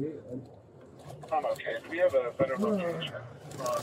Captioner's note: radio chatter